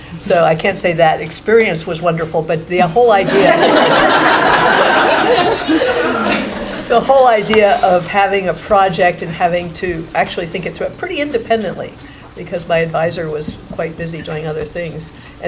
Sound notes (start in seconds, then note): 3.2 laughing